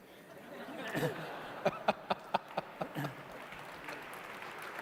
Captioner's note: laughter